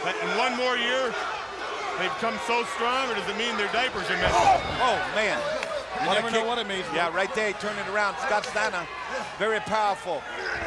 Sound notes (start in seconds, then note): 2.7 fighters exclaims